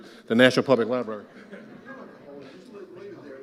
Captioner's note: audience laughs